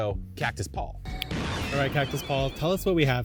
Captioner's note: lighting crashing